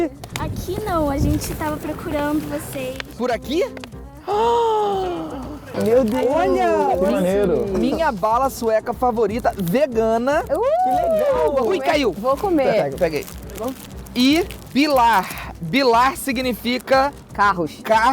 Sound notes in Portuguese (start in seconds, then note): 4.0 faz som de surpresa